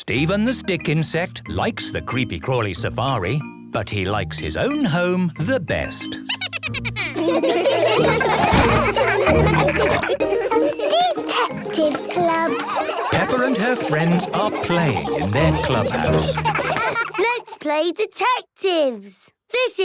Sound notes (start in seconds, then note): 6.2 Steven giggles; 8.1 all laughing; 16.8 giggling